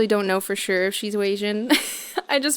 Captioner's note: laughs